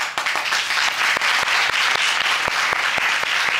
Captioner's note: audience applauding